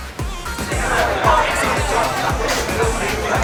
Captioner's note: laughter